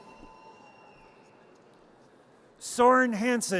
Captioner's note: audience cheers